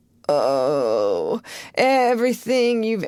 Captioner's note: groan